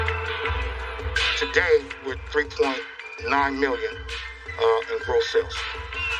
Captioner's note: whistles s